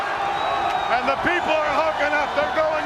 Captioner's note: crowd cheering